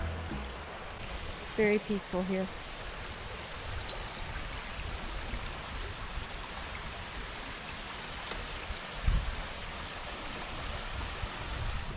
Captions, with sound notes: [Water flowing] It's very peaceful here. [Water flowing] [Bird chirps] [Water flowing] [Water flowing]